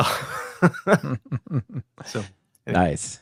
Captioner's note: laughs